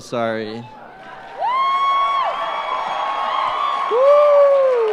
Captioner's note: crowd cheering